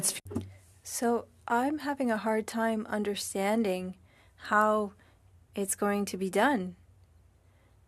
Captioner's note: speaking French